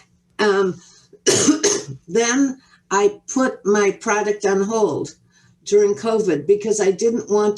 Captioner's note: coughs